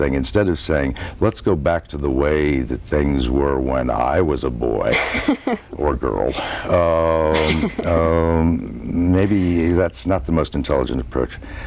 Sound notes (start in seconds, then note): 6.3 chuckles